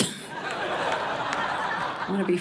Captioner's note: audience laughing